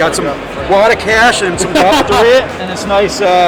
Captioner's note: laughing